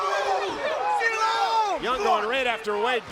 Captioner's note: crowd chatter